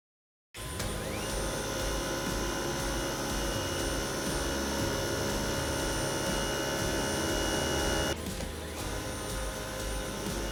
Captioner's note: suction noises